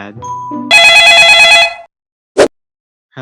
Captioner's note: cell phone ringing